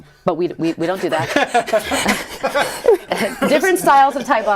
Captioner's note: laughter